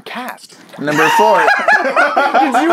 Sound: bloop

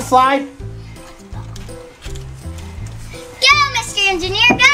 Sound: children whispering

